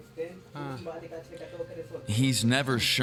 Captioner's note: speaking Spanish